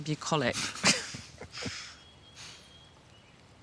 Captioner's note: laughs